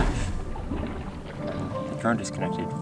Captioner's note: DJI drone submerging